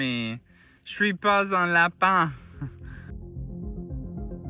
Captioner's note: speaking french